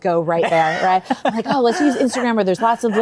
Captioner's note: chuckles